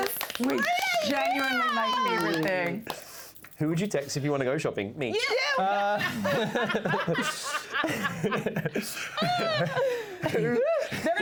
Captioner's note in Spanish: risas